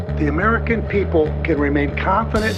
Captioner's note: soundbite of archived recording